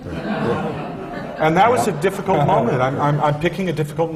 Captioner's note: laughter